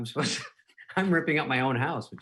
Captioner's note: laughing